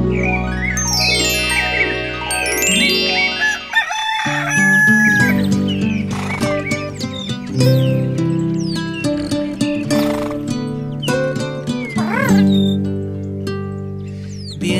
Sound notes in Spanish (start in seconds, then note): 0.0 Música alegre; 0.0 Sonido de caballo; 0.0 Sonido de llamador de Ángeles; 0.0 Sonido de pajaritos; 3.4 Sonido de cacareo; 6.9 Sonido de pajaritos; 10.7 Ronquidos